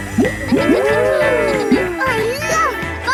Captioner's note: kids gasping and laughing